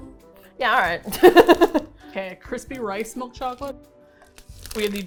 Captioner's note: laughs